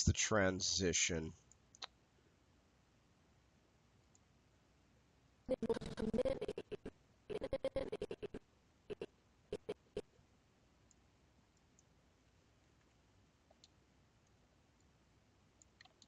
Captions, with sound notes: It's the transition. (audio skipping)